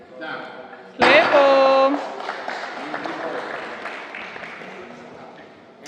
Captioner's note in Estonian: aplaus